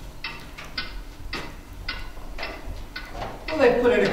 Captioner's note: clock ticking